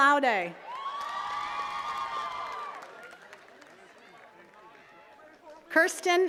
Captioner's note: attendees cheering and clapping